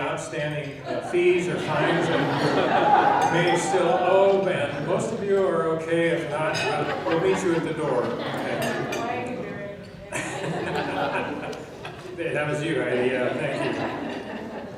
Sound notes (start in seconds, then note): 0.8 laughing; 8.2 audience response; 8.2 laughing